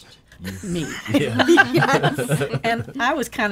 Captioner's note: laughing